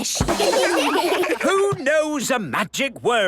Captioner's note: children laugh